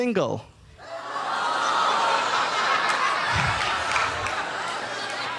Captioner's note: audience laughing